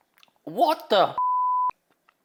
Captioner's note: host gulps; beep